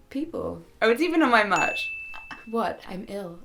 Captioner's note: ding